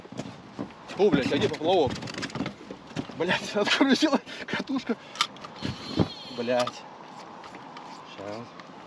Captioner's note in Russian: ругается